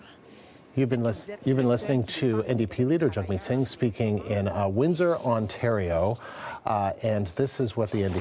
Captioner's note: speaking French